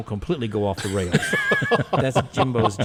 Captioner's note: people laughing